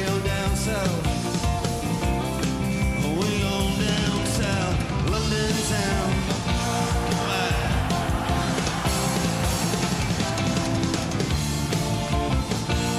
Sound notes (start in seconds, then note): 6.4 audience cheering; 7.9 upbeat rock music